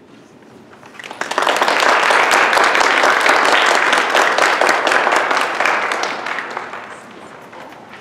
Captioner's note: applause